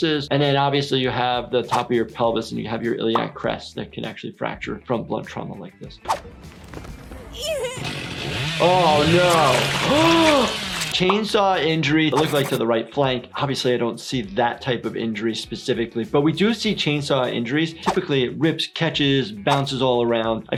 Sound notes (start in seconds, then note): 7.7 chainsaw whirs; 9.5 blood sloshes